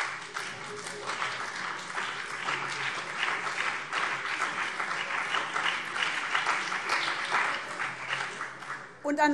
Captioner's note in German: Beifall BÜNDNIS 90/DIE GRÜNEN und vereinzelt CDU